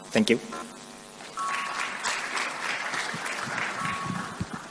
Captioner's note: applause